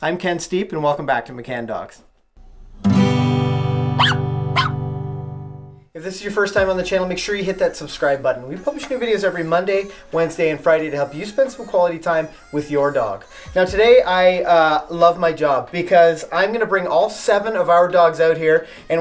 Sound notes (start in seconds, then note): 2.8 guitar strum; 4.0 dog bark